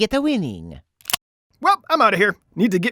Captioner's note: gun clicks